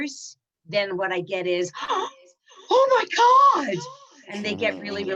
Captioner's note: gasps